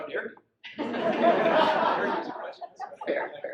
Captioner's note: audience laughs